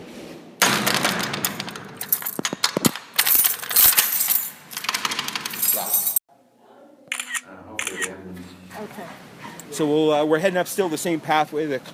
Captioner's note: sounds of keys and doors clanging